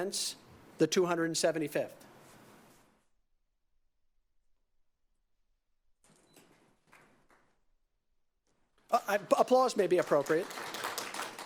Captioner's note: applause